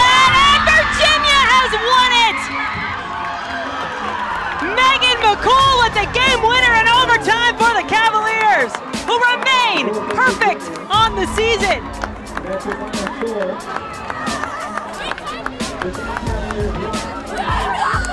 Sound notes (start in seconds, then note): 3.1 cheering; 12.0 cheering and applause